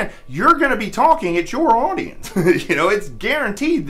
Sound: laughs

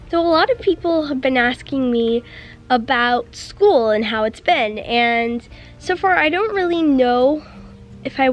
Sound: none

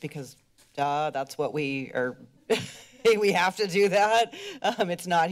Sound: laughs

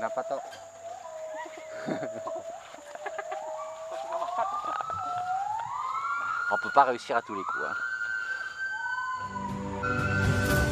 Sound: laughs

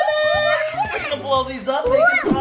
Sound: cheering

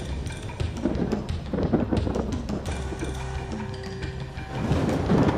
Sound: thunder crackles

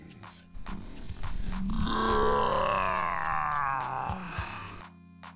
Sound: groans

